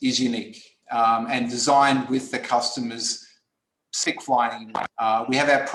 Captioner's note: distortion